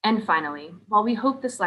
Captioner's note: none